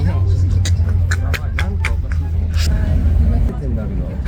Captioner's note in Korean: 웃음 터짐